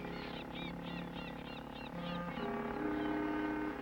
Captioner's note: birds cawing